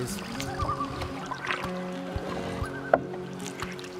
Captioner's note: loon calls